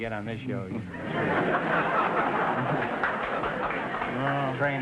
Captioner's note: audience laughter